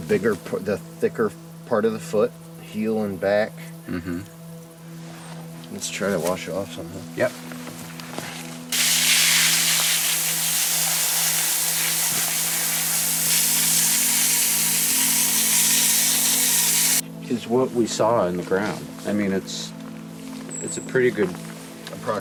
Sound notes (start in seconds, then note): 8.7 water hissing; 11.7 puzzling music